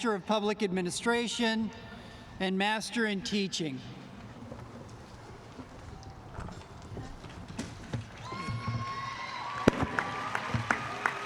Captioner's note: applause